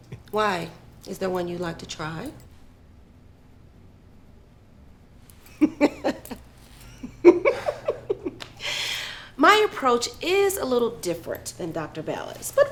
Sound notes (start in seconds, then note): 6.8 Dr. Raddick laughs